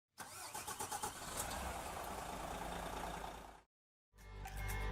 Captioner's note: coach engine chugging; bright music